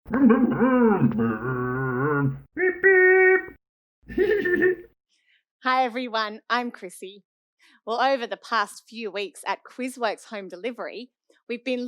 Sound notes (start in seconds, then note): 0.2 Scruff makes scooter noises; 4.1 Scruff laughs